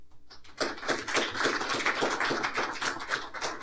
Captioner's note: applause